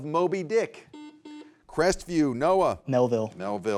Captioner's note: buzzer beeps